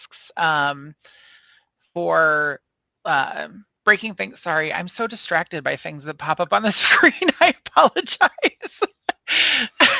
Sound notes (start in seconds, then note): 8.2 laughing hysterically